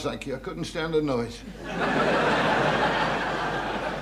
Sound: audience laughing

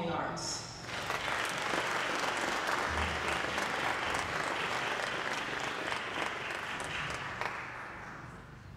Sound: applause

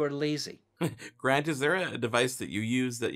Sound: chuckles

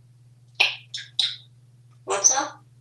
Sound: lip smacking sound

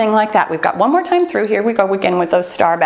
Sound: timer beeps

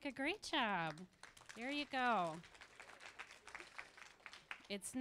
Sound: applause

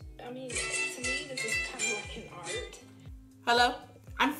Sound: ringtone

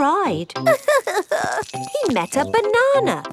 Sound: crying

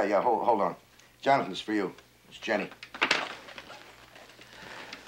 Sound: sighs

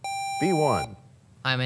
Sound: sound of a buzzer

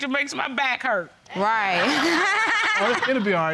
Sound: laughs

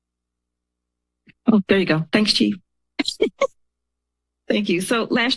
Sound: laughs

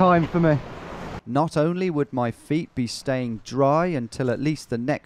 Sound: voiceover

